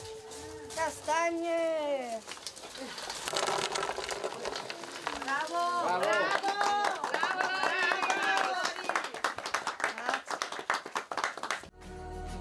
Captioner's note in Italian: Applauso